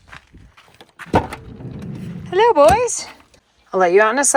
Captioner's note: door clattering